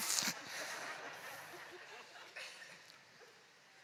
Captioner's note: laughter